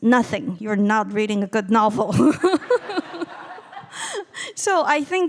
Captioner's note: laughing